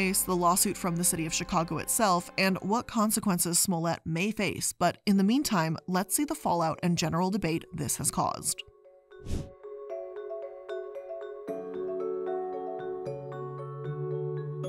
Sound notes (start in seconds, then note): 8.5 mellow music; 9.2 air whooshing